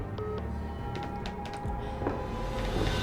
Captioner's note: floor creaking, footsteps approaching